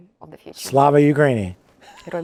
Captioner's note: laughs